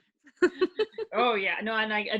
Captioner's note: laughing